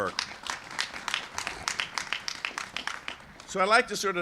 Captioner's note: applause